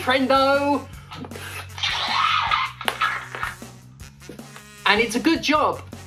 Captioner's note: squelching screech